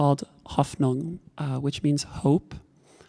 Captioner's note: talking in a foreign language